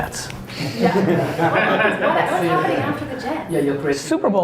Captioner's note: laughs